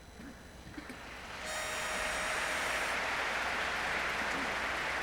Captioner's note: audience applauding